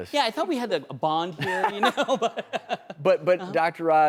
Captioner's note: laughs